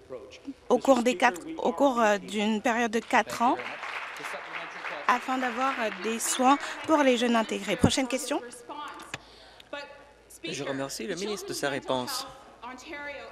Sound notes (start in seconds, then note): 7.4 applause